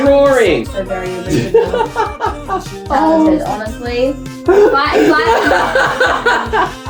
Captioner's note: laughs; laughs louder